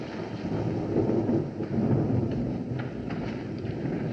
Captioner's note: thunder Rumbling